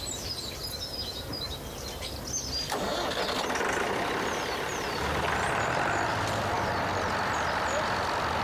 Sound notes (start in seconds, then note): 2.7 tractor engine revving